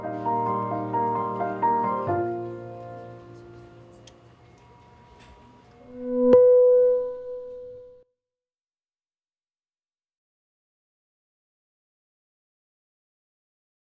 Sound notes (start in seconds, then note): 0.0 peaceful music; 5.4 beeping